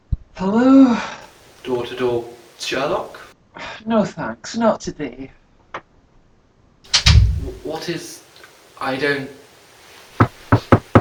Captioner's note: knocks